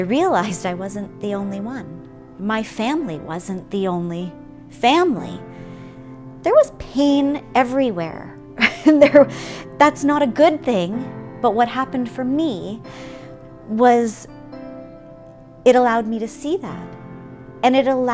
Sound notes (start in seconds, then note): 8.6 laugh